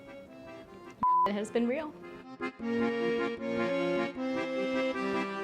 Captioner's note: beep